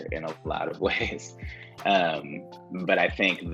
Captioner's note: giggles